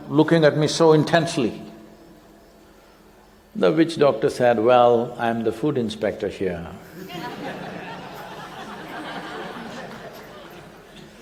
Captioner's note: laughter